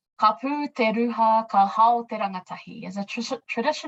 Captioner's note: speaking in foreign language